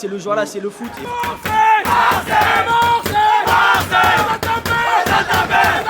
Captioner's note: chanting